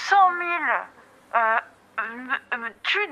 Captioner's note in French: il balbutie